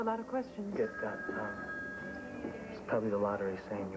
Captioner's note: telephone rings